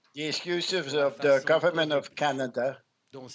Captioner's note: speaking french